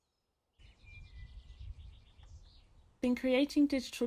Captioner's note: bird chirps